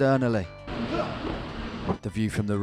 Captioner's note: grunts